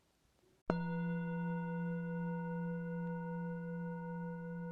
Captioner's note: bell chimes